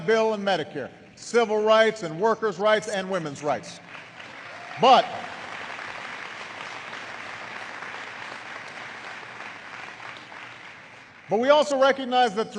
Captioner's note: applause